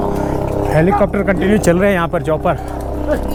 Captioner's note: choppers